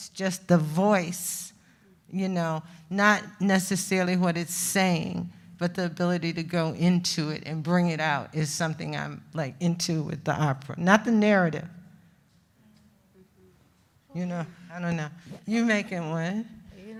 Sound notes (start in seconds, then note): none